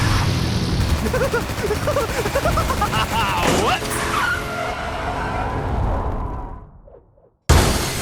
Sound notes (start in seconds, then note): 0.8 laughs